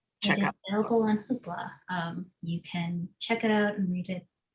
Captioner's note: murmurs